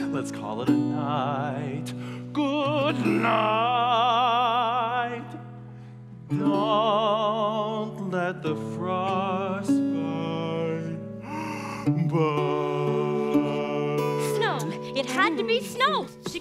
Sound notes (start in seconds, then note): 11.2 yawns